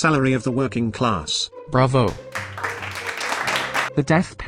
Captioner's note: applause